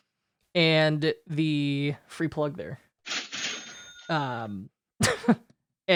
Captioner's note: rings bell